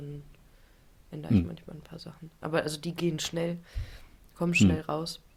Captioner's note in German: räuspern